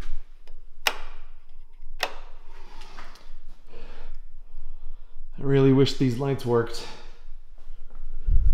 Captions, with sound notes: [switch flipping] click, click I really wish these lights worked.